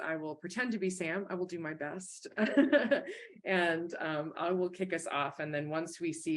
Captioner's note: chuckles